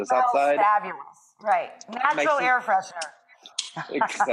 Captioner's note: laughs